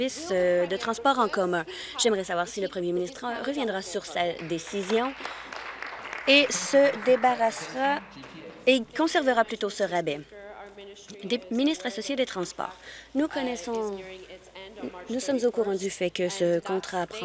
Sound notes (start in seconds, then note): 8.3 applause